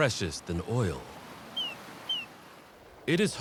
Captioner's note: chirping